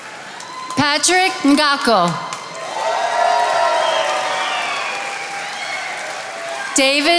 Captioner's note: attendees applauding